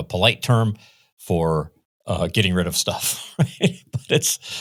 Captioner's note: laughs